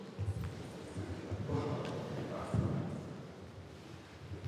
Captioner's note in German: Leises Stimmengewirr